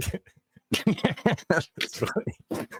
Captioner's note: laughing